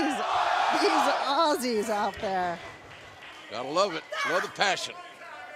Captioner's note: fans chanting